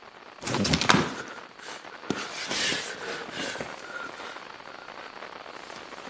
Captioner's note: static builds; hyperventilates; camera slams shut